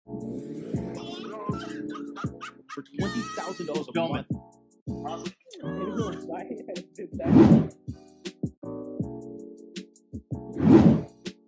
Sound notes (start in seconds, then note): 0.4 upbeat music and laughing; 5.6 mumbling and laughing